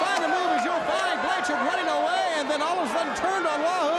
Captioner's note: crowd cheering